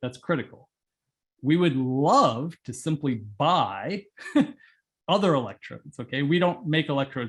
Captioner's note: laugh